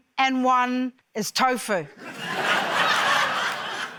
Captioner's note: laughter